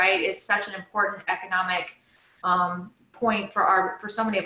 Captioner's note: none